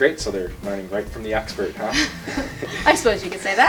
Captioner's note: laughter